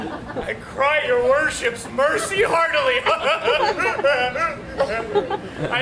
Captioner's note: audience laughs; laughs